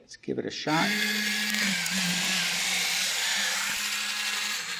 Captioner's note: loud whirring